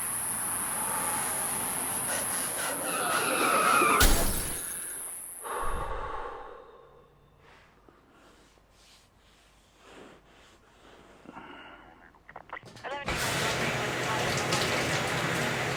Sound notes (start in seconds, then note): 2.2 person panting; 3.7 car crash; 12.6 police radio chatter